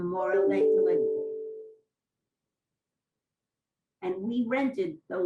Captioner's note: pauses for 3 seconds